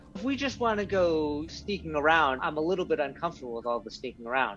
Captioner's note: none